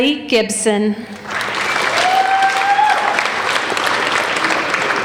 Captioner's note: applauding